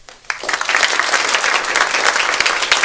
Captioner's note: applause